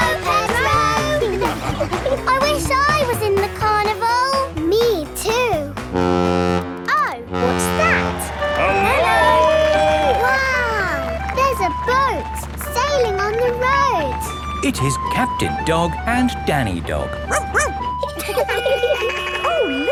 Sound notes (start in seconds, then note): 7.3 horn bellowing; 17.0 laughing; 17.2 barks; 18.4 sirens sounding